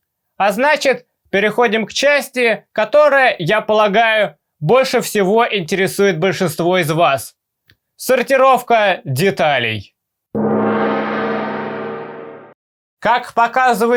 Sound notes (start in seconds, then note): 10.3 gong